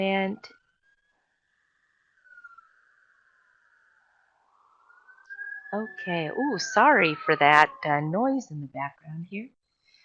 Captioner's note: siren in background